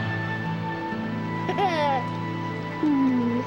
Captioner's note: laughing